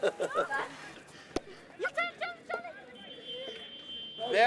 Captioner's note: laughter; shouting